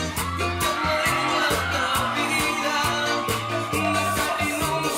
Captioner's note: audience cheering